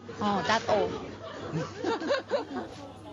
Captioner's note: laughter